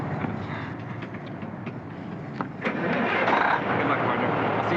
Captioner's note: starts engine